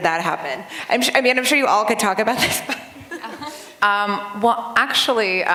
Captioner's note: laughter